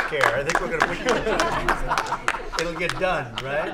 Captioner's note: laughter